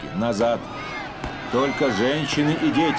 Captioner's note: gunshots, screaming